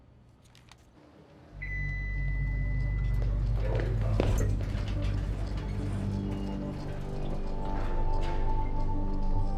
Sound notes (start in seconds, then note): 1.6 suspenseful music; 1.6 elevator pings